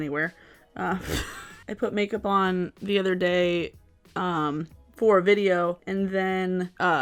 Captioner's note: laughs